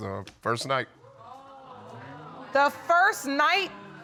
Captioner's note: audience exclaiming